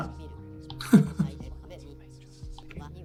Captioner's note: laughs